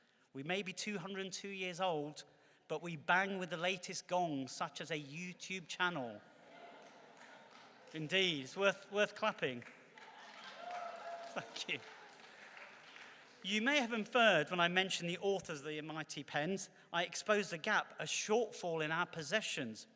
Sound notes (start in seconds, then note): 6.1 laughter and clapping